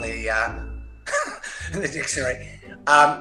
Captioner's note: chuckles